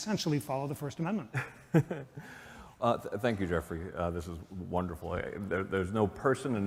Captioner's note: laughter